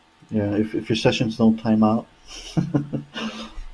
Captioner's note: laughing